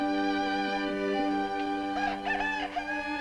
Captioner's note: rooster crowing